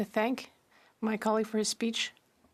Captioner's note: speaking French